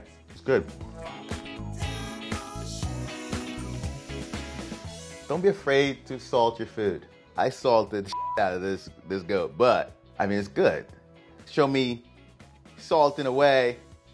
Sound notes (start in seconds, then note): 1.7 light R&B music; 8.1 beeping